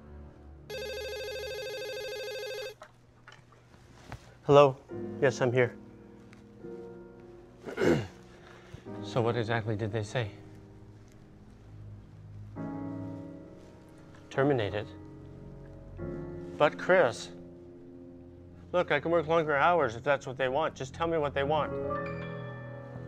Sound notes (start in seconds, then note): 0.7 phone rings; 7.6 clears his throat; 13.9 horrified whisper